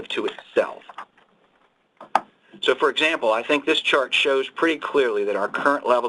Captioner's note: pages turning; loud thud